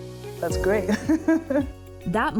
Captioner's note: laughs